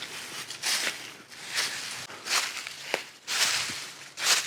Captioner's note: leaves crunching